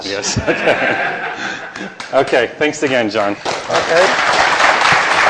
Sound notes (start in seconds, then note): 0.1 laughter; 3.4 applause